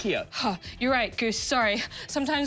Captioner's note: gasps